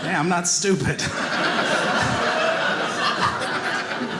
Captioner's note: audience laughing